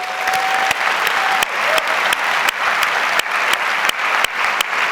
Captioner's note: audience cheers and applauds